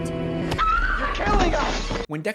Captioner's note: yelling